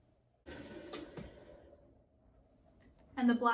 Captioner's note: machine hums